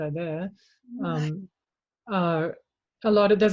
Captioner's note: chuckles